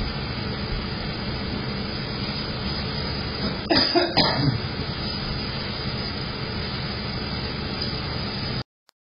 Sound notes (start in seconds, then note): 3.6 coughs; 5.0 opens the door, then closes